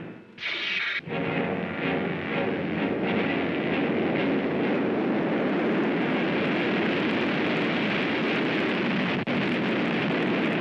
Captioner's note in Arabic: صوت زاب; موسيقى درامية مثيرة للتشويق; صوت مدوي